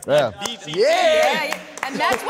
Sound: challengers applaud

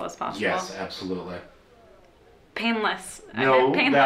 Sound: voiceover

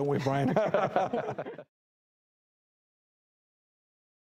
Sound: laughing

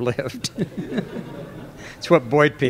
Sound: laughter

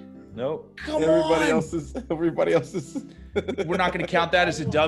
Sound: laugh

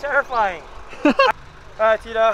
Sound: man laughing

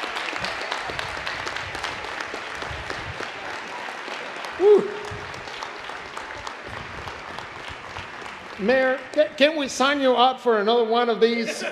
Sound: applause

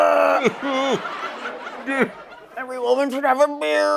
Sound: fake sobbing

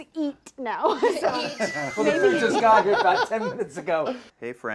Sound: group laughter

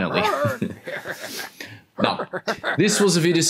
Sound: laughs in the background

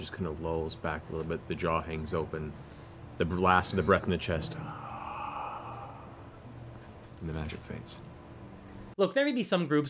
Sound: exhales

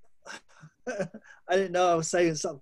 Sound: chuckling

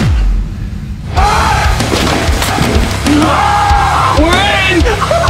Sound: rock music; screaming

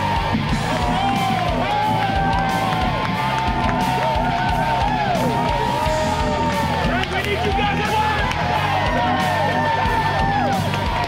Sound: cheering

